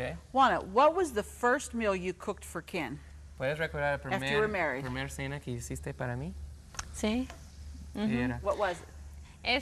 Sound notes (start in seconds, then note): 4.9 speaks in Spanish